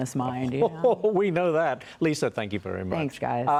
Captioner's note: laughter